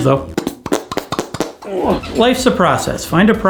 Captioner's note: farting sounds